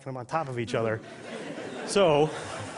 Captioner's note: laughter